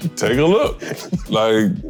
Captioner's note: laughing